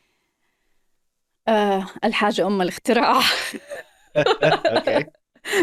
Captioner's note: speaking Arabic